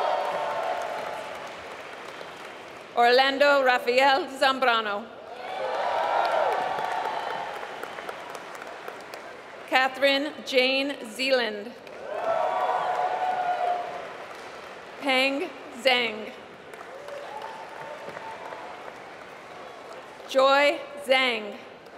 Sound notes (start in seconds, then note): 0.0 applause; 7.0 applause; 11.8 applause; 16.4 applause